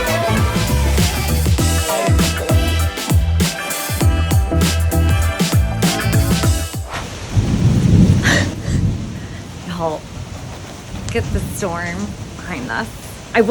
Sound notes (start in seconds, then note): 6.8 rain pattering; 7.3 thunder roaring